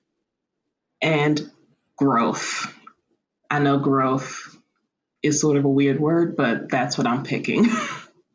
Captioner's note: laughter